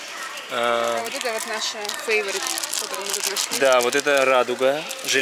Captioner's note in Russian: шуршит